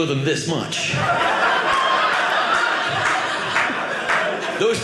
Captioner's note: audience laughing